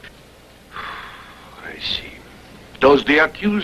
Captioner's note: sigh